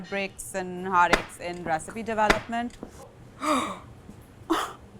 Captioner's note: gasps